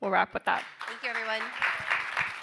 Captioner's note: audience applauding